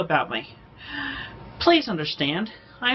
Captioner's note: inhales sharply